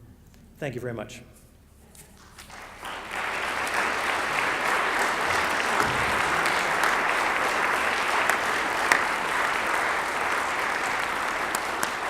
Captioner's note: applause